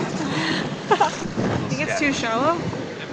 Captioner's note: laughing